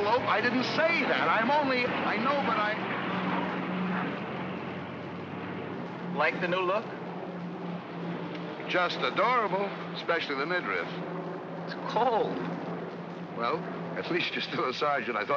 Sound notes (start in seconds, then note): 3.1 vehicle rumbles away